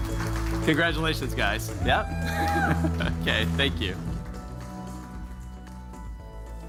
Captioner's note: applause